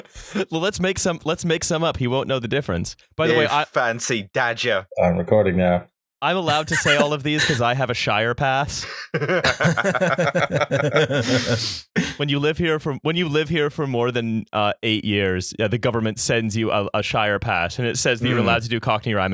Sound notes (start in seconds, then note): 3.3 cockney voice; 8.8 laughter